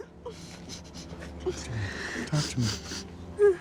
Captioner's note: sobbing